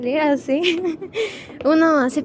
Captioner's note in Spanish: risa